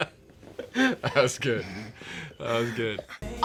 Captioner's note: laughs